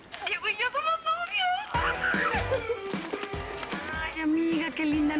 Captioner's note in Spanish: Exclamaciones